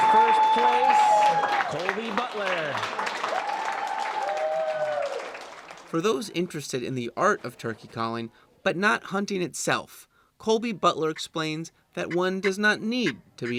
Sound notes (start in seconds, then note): 3.4 crowd cheering, clapping